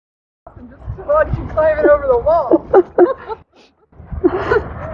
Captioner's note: laughing